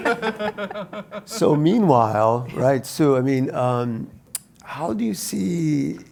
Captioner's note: laugh